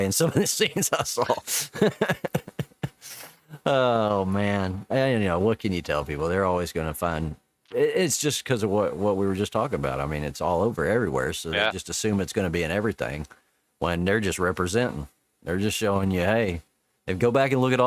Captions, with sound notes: in some of the scenes I saw. (laughing) - Oh man, what can you tell people? They're always gonna find, it's just because of what we were just talking about. I mean, it's all over everywhere. So they just assume it's gonna be in everything when they're just representing, they're just showing you, hey, if go back and look at